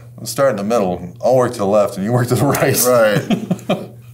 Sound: laughs

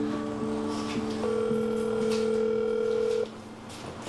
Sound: phone ringing

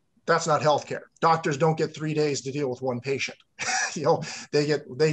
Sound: laughs

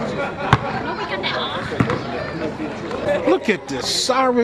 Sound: basketballs bouncing

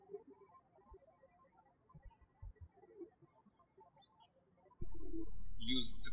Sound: bird chirping

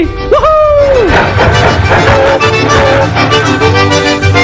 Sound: train engine

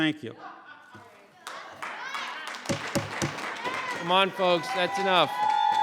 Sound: audience cheering

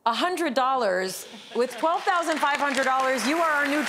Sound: audience applauds

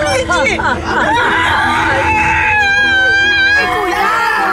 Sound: screams

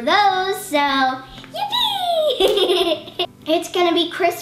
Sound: giggles

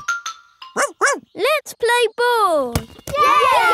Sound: snorts; barks; all cheering and laughing

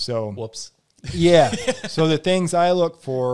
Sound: laughs

